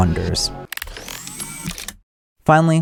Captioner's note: electronic whirring